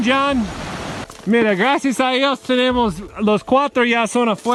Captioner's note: in Spanish